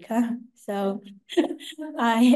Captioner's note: laughter